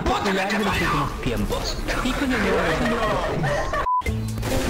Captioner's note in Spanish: risas